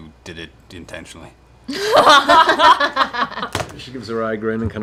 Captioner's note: laughter